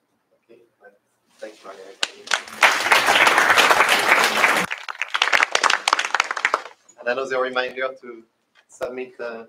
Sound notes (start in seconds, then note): 2.0 applause